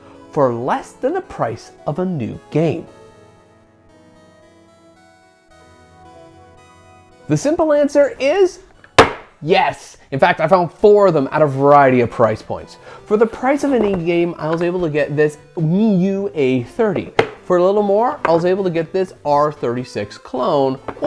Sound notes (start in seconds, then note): 8.9 slams boxes down